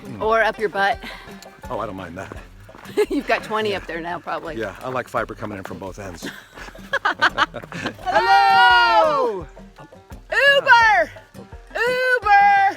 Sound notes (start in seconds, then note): 6.2 both laughing